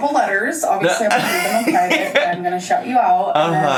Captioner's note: laughs